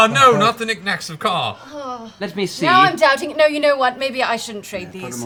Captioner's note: worried sigh